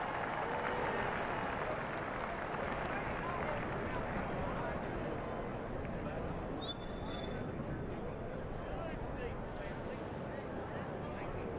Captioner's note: applause